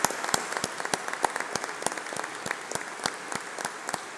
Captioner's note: applause